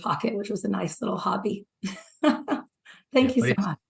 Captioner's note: chuckles